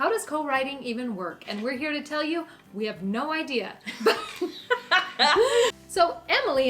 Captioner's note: laughing